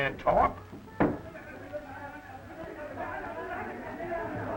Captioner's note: people arguing